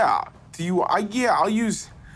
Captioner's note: none